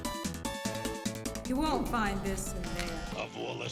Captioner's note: bzzt